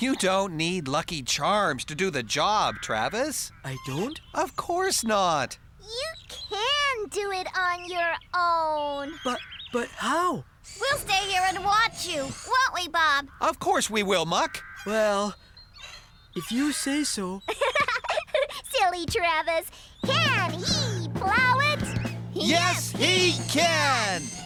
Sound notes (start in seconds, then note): 17.3 giggling